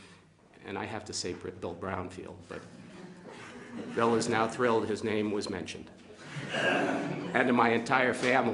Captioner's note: laughter